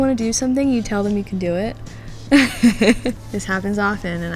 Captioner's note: laughs